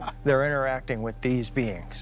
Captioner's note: laughs